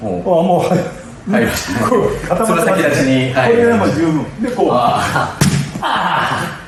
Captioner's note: laugh